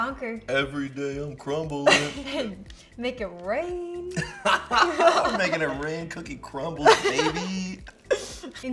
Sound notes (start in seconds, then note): 1.8 laughs; 4.1 both laugh